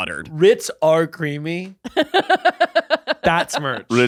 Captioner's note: laughing